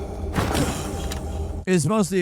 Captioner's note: Fox thuds